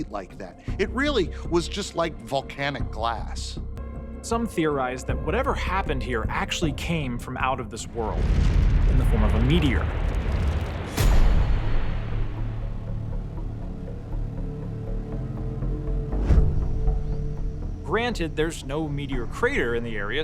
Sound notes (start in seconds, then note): 10.5 meteor rumbling; 10.5 tense music